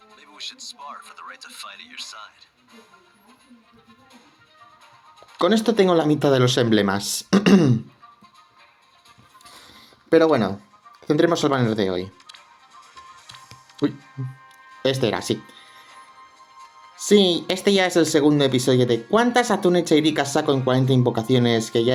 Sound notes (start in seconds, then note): 7.3 clears throat